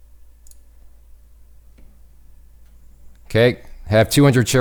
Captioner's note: mouse clicks